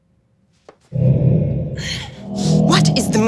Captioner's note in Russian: Звук энергетического поля